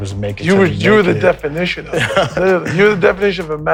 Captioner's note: laughs